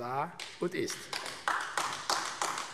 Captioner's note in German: Beifall AfD